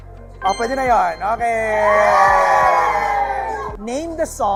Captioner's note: cheering